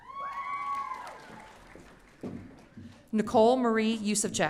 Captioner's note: audience cheering